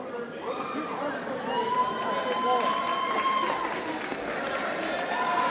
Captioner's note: audience cheers and applauds